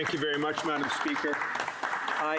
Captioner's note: applause